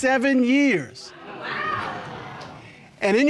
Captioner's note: audience exclaims